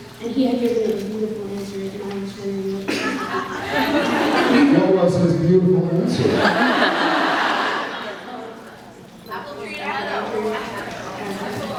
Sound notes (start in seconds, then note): 3.0 laughs; 6.2 laughs